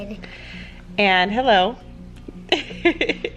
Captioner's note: laughs